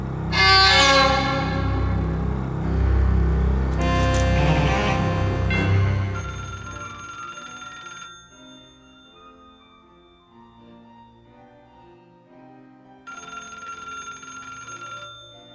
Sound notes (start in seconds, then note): 5.5 phone rings; 6.4 distant piano